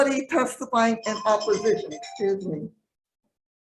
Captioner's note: phone rings